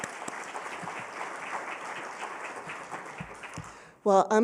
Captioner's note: applause